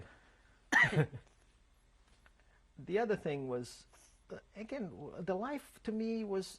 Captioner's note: laughs